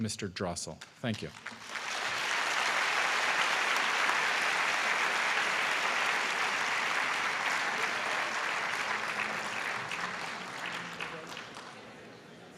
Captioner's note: applause